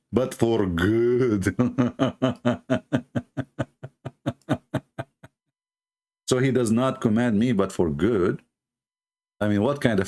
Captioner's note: Ketawa